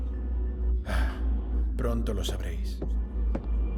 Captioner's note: sighs